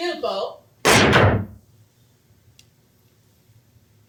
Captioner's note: sticks pound